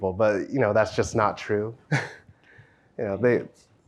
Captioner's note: chuckles